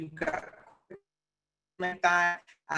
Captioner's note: audio drop